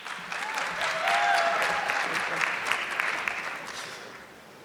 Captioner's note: audience clapping